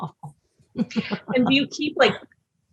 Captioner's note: laughs